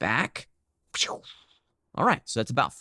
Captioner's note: lips swishing